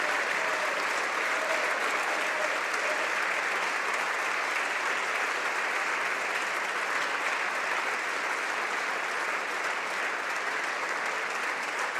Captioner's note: applause